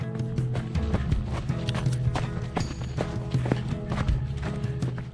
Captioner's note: footsteps crunching